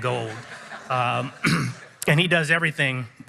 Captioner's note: audience chuckles